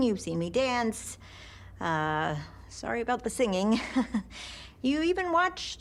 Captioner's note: chuckles nervously